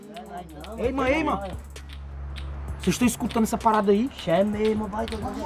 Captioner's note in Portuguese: barulho de bate-bate